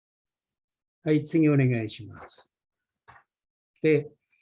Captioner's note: speaking japanese